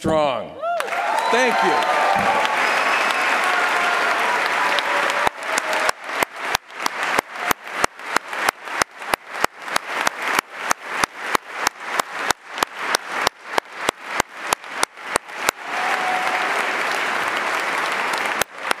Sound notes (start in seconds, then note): 5.5 applause